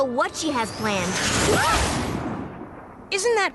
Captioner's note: whoosh